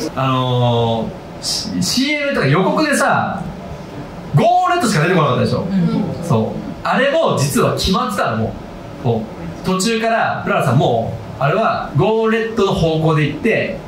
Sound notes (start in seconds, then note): 5.5 crowd